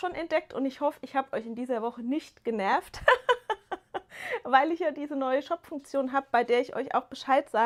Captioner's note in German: gelächter